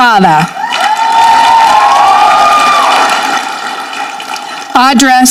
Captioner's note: audience clapping